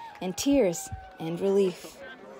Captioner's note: cheers and Applause